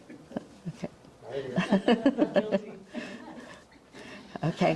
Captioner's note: audience chuckling; laughs